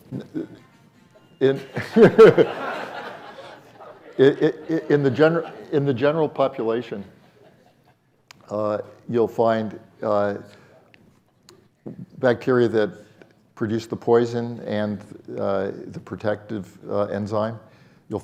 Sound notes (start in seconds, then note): 1.5 audience laughing; 1.6 laughs